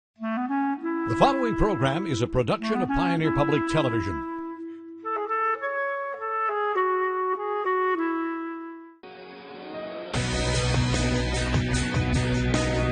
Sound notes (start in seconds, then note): 1.4 voiceover; 6.5 oboe music; 10.7 soft rock music